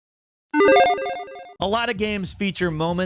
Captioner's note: logo beeps